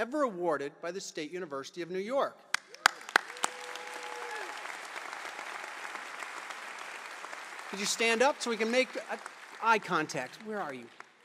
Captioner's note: applause